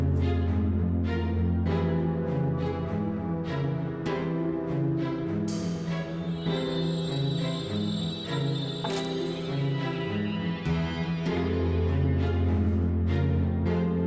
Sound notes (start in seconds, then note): 8.8 stick clacking